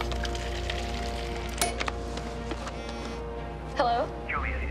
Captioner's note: cell phone ringing